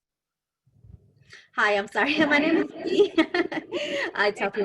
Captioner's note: laughs